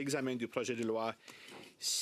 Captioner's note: speaking in French